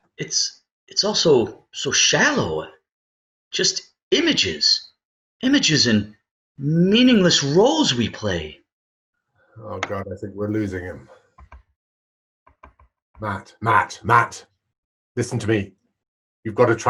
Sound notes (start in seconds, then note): none